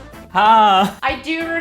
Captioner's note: speaking in Hindi